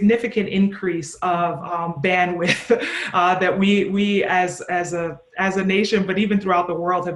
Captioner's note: chuckles